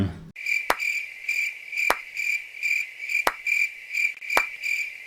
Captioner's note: cricket noises and slow clapping